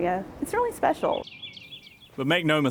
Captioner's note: birds chirping